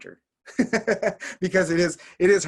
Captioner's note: laughing